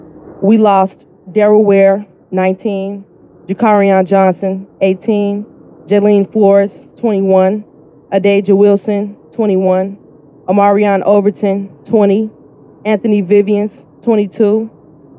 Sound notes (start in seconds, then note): none